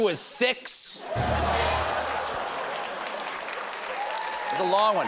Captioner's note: applause; laughter